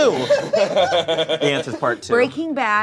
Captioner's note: laughs